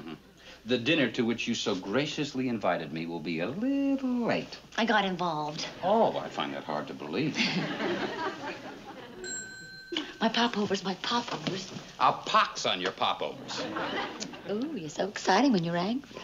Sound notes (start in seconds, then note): 7.4 Ann chuckles; 9.2 oven timer dings